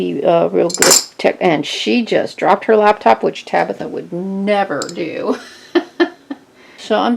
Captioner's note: laughing